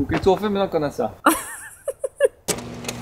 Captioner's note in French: Rire